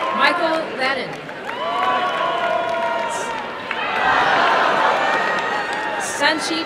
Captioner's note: applause and cheering